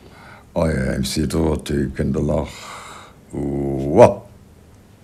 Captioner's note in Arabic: يتحدث لغة أجنبية